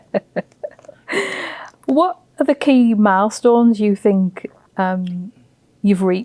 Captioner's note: laughs